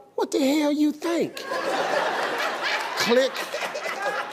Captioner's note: audience laughing